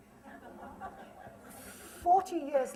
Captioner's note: laughter